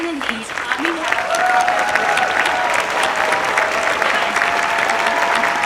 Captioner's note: audience applauds and cheers